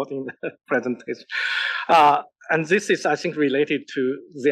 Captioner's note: laugh